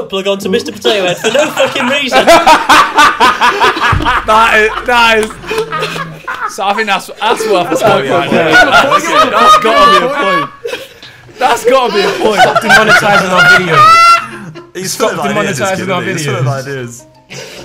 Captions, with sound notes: onto Mister potato head for no fucking reason? (laughs) (murmurs)